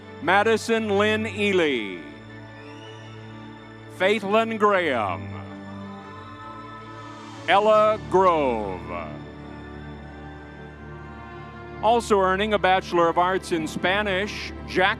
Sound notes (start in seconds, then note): 6.2 crowd cheering; 9.6 crowd cheering